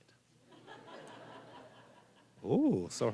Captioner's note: audience laughing